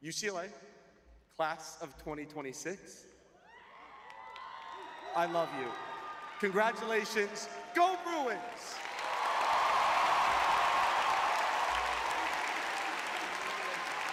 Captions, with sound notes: UCLA class of 2026- [cheering] ... I love you. Congratulations. Go Bruins! [applauding]